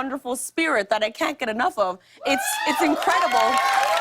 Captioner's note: cheers and applause